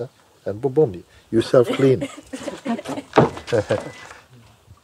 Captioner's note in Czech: smích